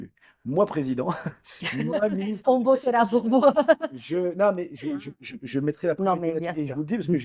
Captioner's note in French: rires